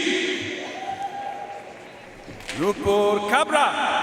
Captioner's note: audience cheering and applauding